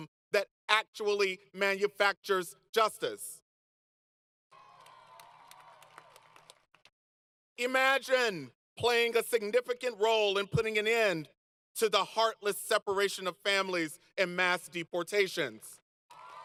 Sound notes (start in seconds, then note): 4.5 applause; 16.1 applause